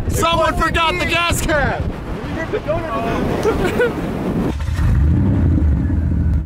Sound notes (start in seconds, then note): 2.4 laughing; 4.5 engine revving